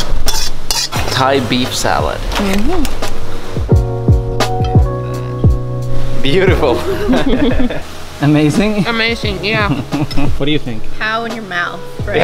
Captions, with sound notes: Thai beef salad. Beautiful. (laughs) - Amazing? - Amazing, yeah. - What do you think. - Pow in your mouth.